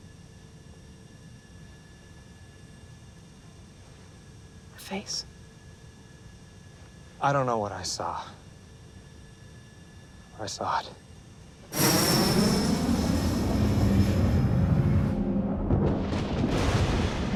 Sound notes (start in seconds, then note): 11.7 plane whooshing; 16.0 thunder crashing